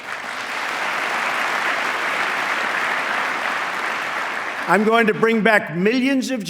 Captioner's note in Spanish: aplauso